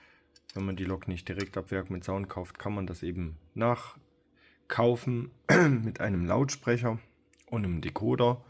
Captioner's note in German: räuspern